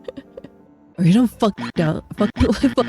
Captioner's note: hyucking